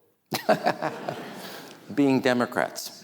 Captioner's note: Rahm laughs; audience laughing